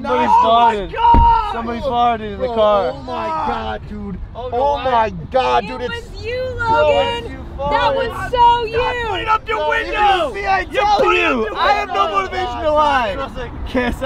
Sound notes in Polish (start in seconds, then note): 2.1 agonia w tle